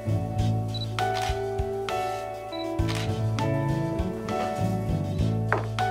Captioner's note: upbeat music; camera shutter clicking